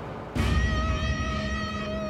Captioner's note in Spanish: Disparo